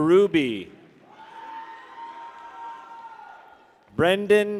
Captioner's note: people cheer